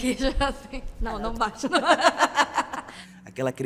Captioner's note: women laugh